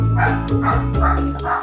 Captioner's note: dog barking